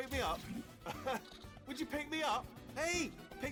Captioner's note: laugh